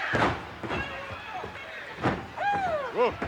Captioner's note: body thuds